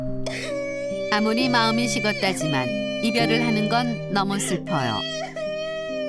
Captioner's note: crying